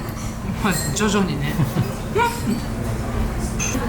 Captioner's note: laughs